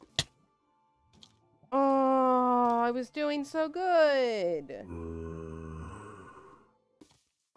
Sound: zombie groans

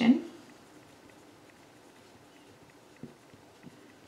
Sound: pen scribbles

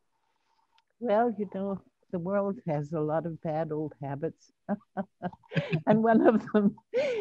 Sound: laughs

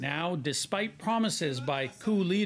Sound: speaking Foreign Language

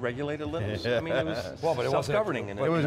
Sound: laughs

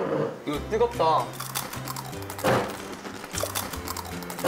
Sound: crunch♥

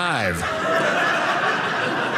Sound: audience laughing

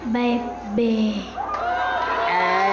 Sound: audience cheering

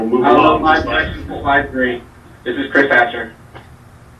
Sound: man speaking in the background

